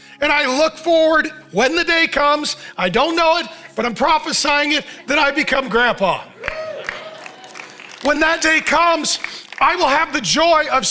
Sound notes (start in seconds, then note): 6.3 congregation cheers and claps